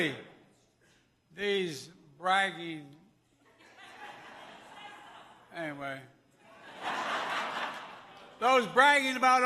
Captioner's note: laughter